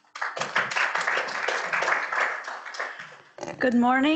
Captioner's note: audience clapping